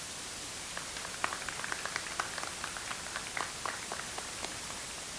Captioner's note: audience applauds